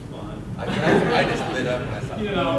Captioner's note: audience laughs